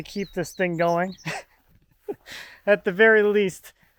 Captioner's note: laughs